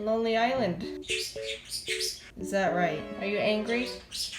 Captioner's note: chirping; screeching